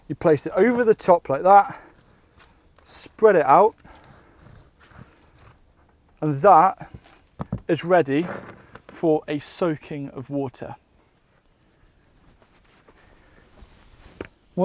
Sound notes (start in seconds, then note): none